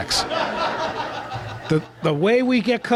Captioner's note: laughter